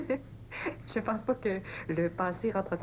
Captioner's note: Elle rient